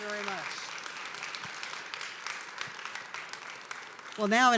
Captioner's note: applause